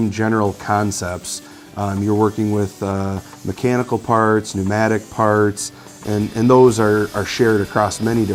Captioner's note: assembly line machine